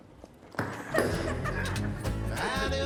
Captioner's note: laughing